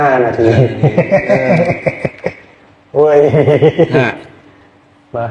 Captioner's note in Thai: เสียงหัวเราะ